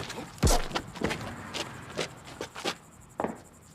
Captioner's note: Hubert thuds